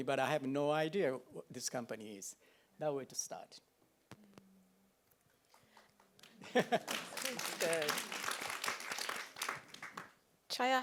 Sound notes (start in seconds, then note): 6.4 chuckles; 7.6 audience applauds